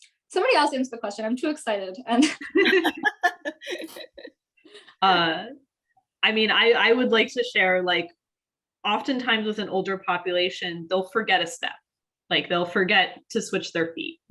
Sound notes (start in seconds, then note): 2.4 all laughing